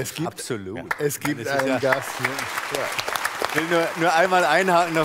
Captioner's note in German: Applaus